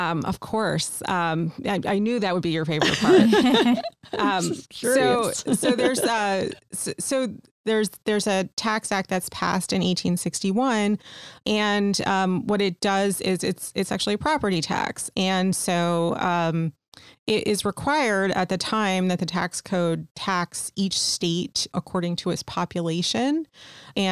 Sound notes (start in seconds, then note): 2.8 laughter